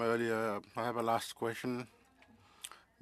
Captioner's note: speaking French